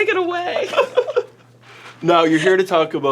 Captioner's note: laughing